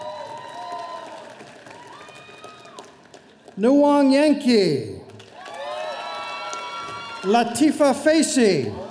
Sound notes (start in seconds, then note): 0.0 audience applauding; 5.3 audience cheering